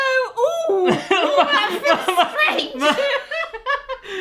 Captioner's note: laughing hysterically